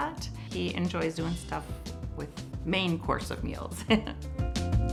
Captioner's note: chuckles; upbeat music